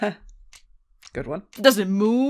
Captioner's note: laughs